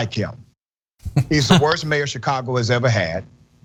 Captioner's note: laugh